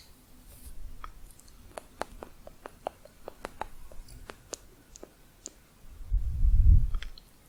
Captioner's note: clicking on lips